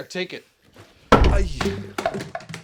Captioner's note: bottle Hits Floor